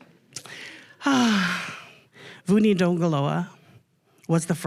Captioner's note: sighs